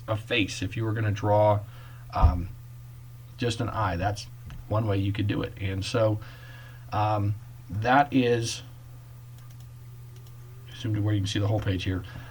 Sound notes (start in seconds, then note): 10.1 clicking